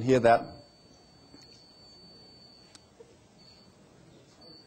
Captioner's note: beeping